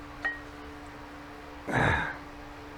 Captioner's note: grunting